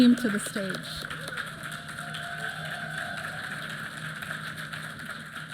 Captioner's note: applause